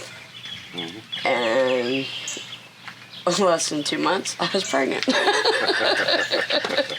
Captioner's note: laughing